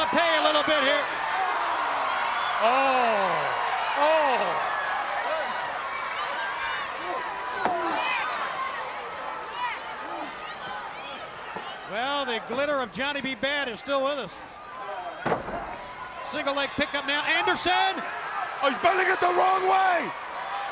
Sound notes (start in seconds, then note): 4.6 crowd cheering